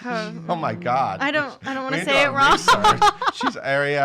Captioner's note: laughing